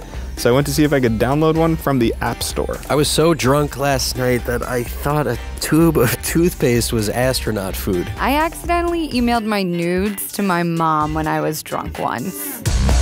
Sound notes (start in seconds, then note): 2.9 voiceover; 8.2 voiceover